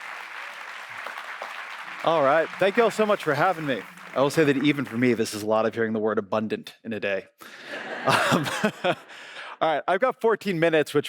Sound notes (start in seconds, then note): 0.0 audience applauds; 7.7 audience laughs